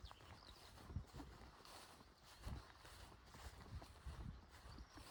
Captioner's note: footsteps